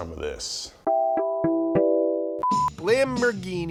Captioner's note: logo beeps; logo theme music